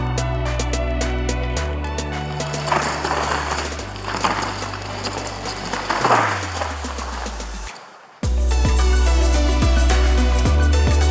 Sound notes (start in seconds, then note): 2.7 bike tires rumble over gravel; 8.2 upbeat music